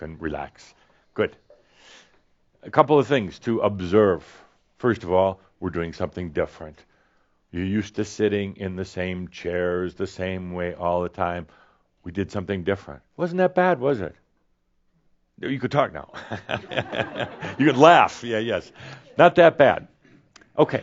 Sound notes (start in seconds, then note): 16.1 chuckles